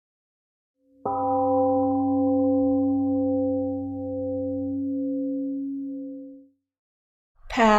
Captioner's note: temple gong rings and slowly fades